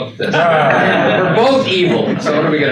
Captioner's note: attendees laugh